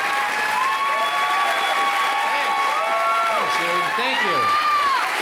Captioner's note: crowd roars; cheering continues